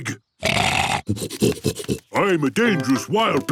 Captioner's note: snorting